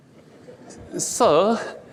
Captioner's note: audience laughs